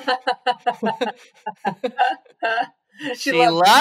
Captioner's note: both laughs